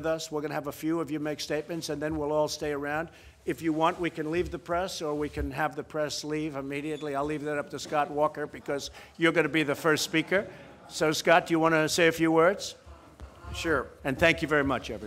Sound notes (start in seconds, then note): 10.0 laughter